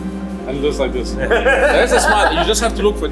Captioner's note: person laughing